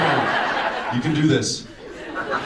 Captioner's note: audience laughs